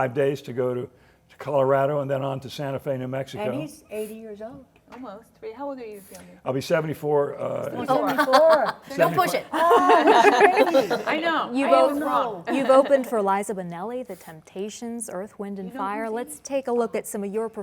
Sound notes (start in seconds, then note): 11.0 laughter